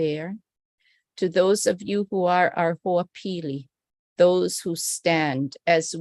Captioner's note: non-english speech